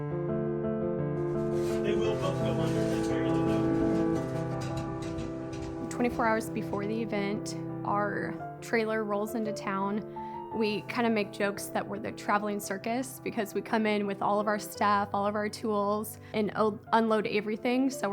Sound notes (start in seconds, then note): 1.2 inquisitive music; 2.8 chatter